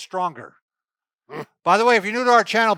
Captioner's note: grunts